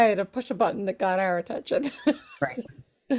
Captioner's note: laughs